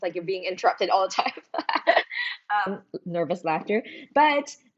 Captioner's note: laughs